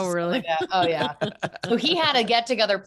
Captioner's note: laughing